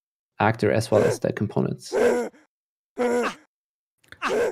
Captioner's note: game grunting noises